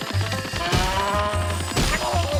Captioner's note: crows squawk; cow moos; man grunts